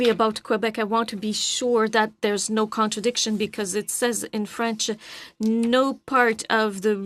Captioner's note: speaking in French